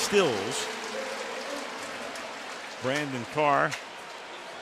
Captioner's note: pa announcement